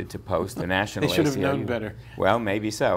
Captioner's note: laughs